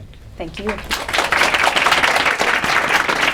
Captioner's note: applause